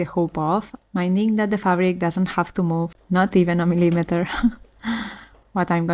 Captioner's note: sighs and gasps